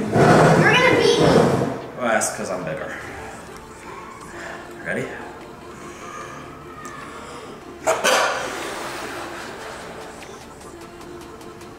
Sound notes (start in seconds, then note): 5.7 inhaling; 7.8 exhaling